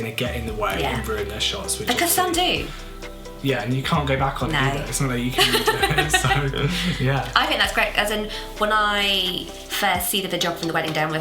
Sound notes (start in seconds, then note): 5.3 laughs